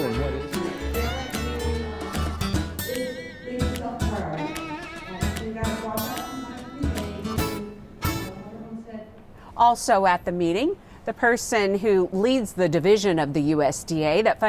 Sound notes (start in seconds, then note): 0.0 jaunty guitar music; 3.0 indistinct conversation